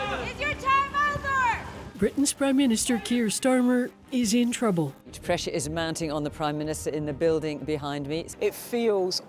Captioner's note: shouts